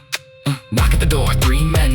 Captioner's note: heartbeat returns, louder, distorted